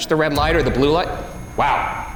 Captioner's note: REM-POD beeps